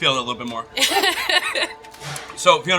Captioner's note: laughing